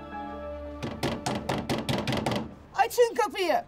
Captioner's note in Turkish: Kapı Çalıyor